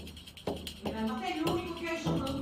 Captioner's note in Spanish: voz de la peluquera en off